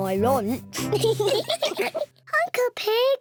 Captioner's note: all giggle